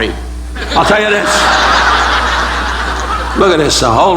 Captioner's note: audience laughing